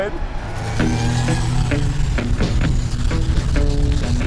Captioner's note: truck engine roaring